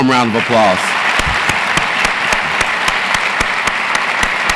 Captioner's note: audience applauds